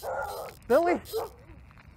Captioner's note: dog barking